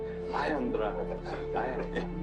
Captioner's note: room laughing